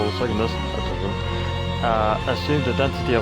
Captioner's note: exhalation